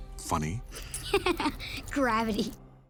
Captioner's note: laughing